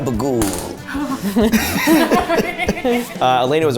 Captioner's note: all laugh